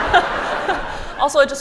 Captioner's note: laughter